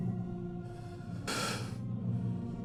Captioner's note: emotional exhale